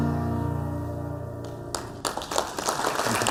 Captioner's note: applause